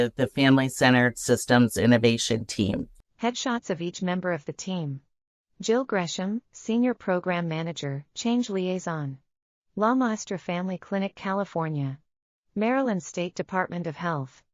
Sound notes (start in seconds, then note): 3.0 audio Description being read